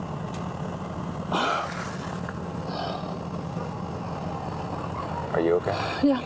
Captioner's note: exhales